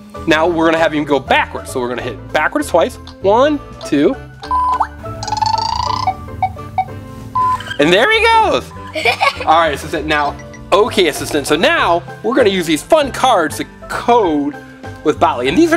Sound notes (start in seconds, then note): 4.6 beeping; 8.7 girl laughs